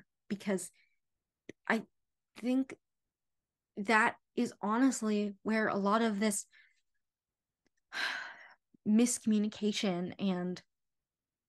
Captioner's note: sigh